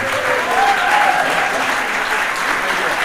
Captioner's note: audience applauding